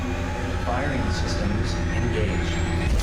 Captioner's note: computer voice